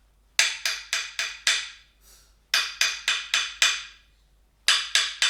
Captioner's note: wooden tapping sound